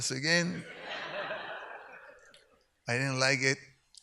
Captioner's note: audience laughs